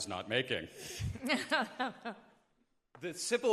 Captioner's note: laughing